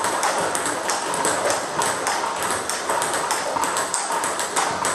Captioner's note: ball ping pong hitting continues